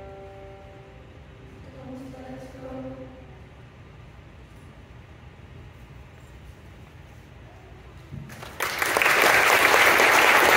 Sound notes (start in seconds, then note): 8.2 applause